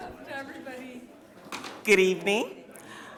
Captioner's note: microphone tapping; people chattering still